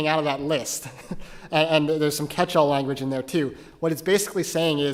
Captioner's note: laugh